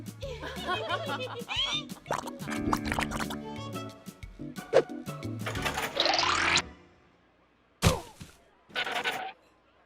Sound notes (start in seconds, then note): 0.2 contestants giggling; 2.1 mud bubbling